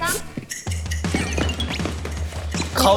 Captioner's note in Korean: 쿵쾅쾅캉캉